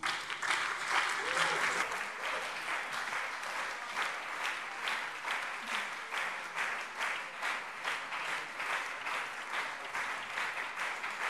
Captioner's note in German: Anhaltender lebhafter Beifall CDU und SPD - Beifall BÜNDNIS 90/DIE GRÜNEN